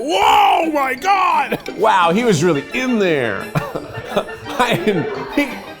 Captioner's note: chuckles